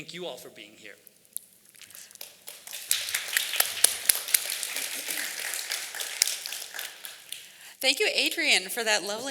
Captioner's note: applause